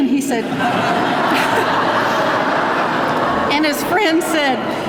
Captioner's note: laughing